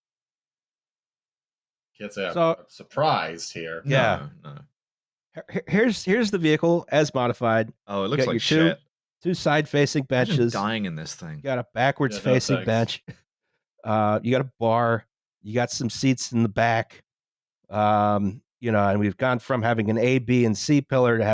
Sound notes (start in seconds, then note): 3.0 surprised